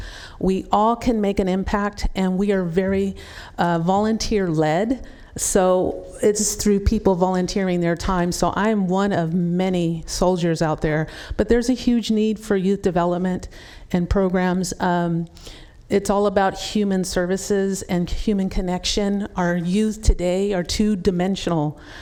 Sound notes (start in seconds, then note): none